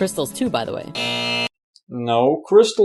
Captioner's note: buzz